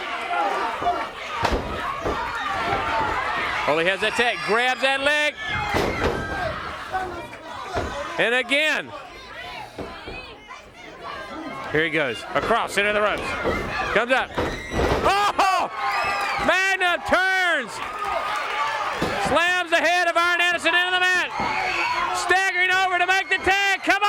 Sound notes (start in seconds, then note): 0.0 crowd cheering; 11.4 crowd chatter; 18.4 crowd cheering